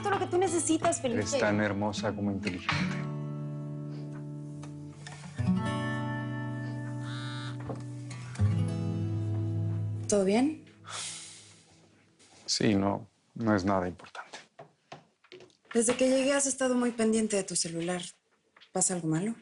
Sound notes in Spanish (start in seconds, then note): 7.0 Zumbido en un celular